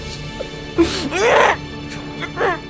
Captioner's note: grunts